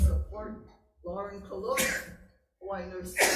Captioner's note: sneezing drowns out conversation